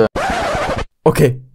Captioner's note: DJ Stop Sound